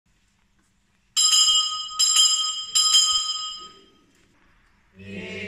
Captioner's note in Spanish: suena la campana tres veces